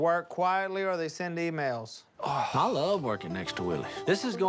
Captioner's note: sighs